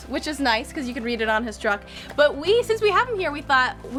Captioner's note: none